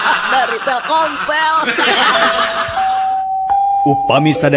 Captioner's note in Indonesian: tertawa